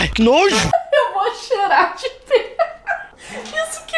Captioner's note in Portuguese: rindo